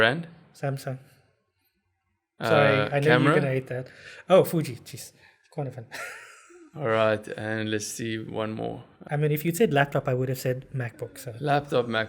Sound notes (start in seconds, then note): 5.9 laugh